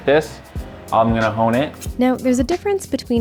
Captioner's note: knives clanking